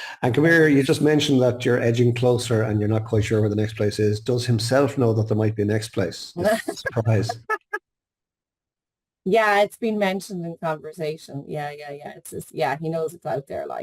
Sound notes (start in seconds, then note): 6.4 laughing